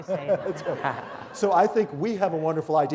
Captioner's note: laughter